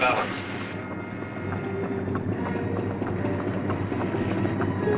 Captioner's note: machinery whirring